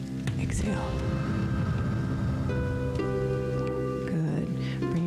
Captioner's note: breath hisses